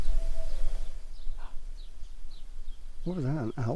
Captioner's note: distant hoot